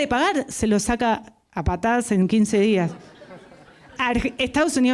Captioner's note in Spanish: risas